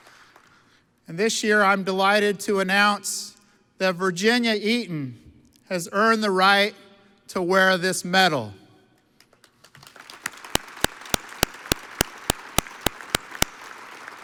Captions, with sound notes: And this year, I'm delighted to announce that Virginia Eaton has earned the right to wear this medal. (audience applauds)